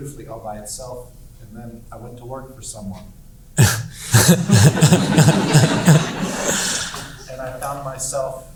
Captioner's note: laughs